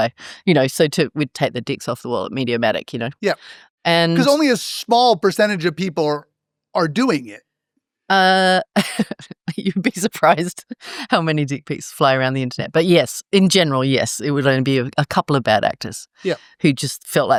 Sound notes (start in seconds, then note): 6.8 laugh